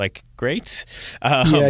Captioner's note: laughs